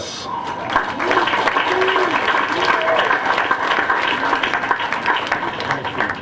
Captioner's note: applause